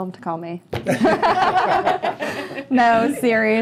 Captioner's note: laughter